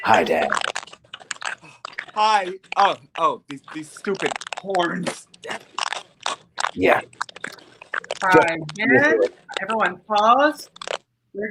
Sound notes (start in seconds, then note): 1.3 sighs